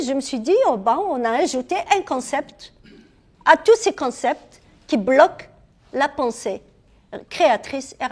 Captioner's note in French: raclement de gorge